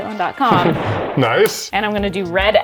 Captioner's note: explosion blasting